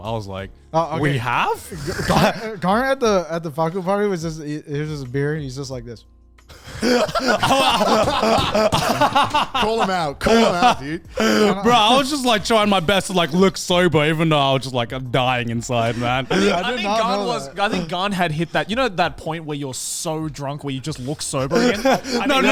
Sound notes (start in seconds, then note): 6.5 men laughing